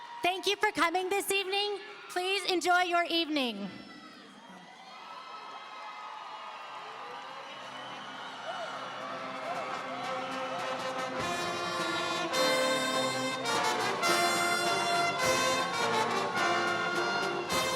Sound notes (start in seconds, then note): 5.6 audience cheering; 11.6 orchestral music